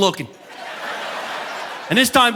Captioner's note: audience laughing